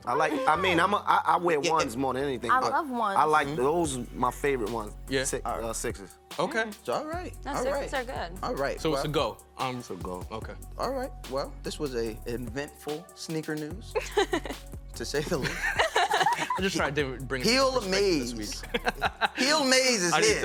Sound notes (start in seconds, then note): 15.2 laughter